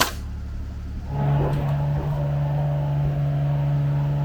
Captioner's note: motor humming